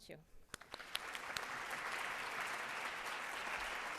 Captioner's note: audience applauds